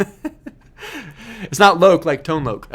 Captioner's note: laughing